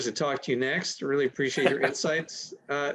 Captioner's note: chuckles